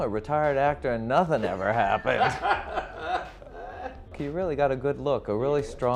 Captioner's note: laughter